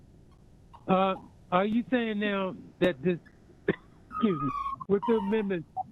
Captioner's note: cough